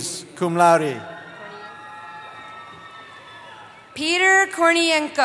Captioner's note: cheering